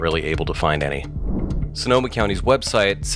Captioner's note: air whooshes